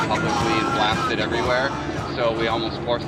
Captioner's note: voiceover